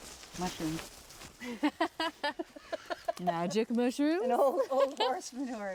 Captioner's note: laughter